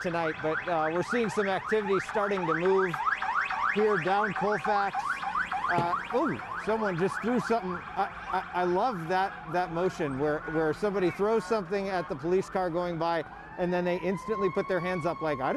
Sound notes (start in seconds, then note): 6.7 sirens